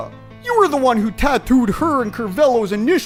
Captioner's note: none